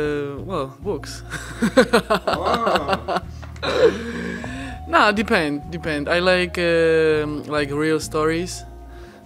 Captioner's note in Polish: śmiech